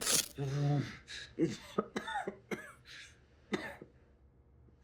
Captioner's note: Roy coughing